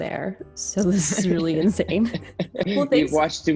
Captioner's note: chuckling